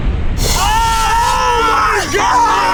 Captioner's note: both yelling